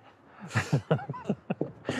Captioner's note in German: Lachen